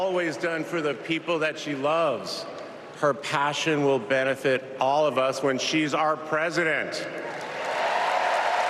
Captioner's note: applause